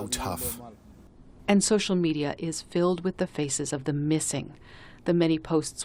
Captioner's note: voice-over